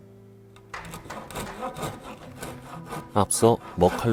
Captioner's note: sawing sound